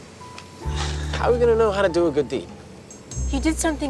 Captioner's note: sighs